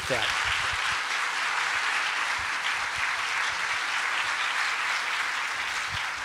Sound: applause

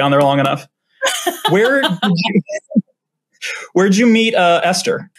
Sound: both laugh

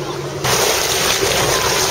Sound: waves

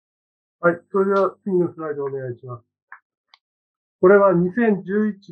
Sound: speaking japanese

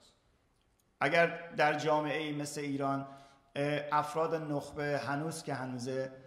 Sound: speaking in farsi

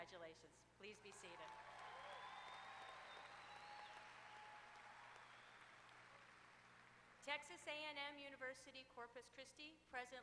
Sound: applause

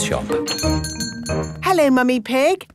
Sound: doorbell chiming

